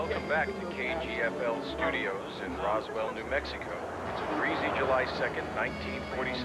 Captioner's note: man over radio